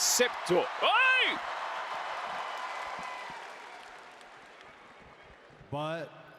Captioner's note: applause